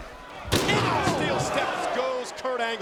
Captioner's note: stair clatters